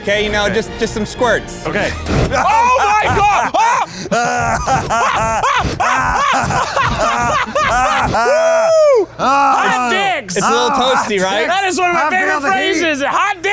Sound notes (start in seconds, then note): 1.8 flames bursting; 4.2 laughing; 5.1 flames bursting; 5.9 screaming; 6.7 laughing; 7.5 flames bursting